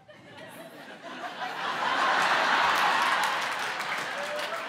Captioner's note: audience laughs